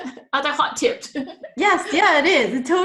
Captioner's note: laughs